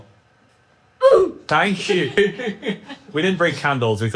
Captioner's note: laughs